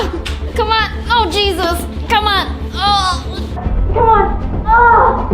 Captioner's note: groans